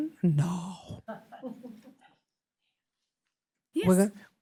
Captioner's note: laughter